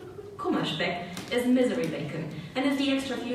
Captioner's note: speaking German